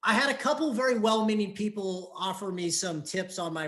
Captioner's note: none